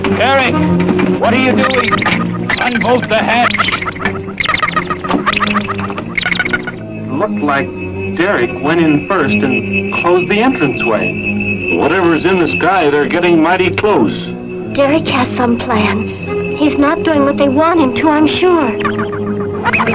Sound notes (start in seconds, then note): 0.0 capsule slides; 4.2 machines beeping